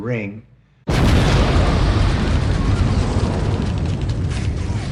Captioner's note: explosion, gunfire